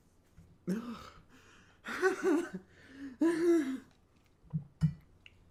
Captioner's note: laughter